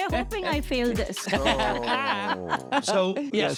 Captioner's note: laughing